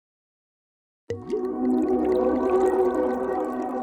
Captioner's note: wine pouring